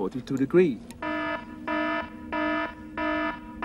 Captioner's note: alarm blaring